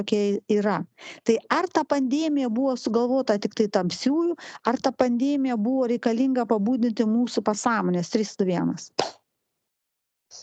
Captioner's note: clap